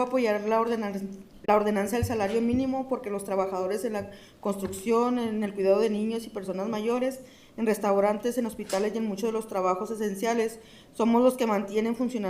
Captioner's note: speaking in spanish